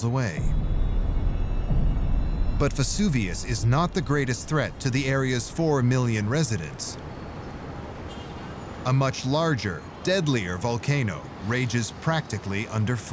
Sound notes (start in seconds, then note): 0.3 ominous music; 0.3 deep rumble; 6.8 traffic and cars honking